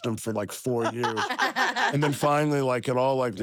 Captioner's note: laugh